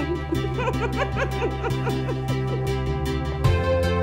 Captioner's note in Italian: Risata